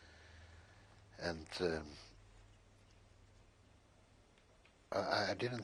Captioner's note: pauses for 3 seconds